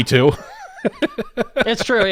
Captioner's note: laugh